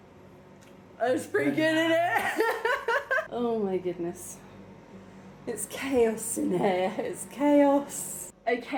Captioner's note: laughing